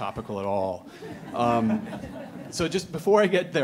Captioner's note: laughing